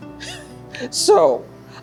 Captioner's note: laughing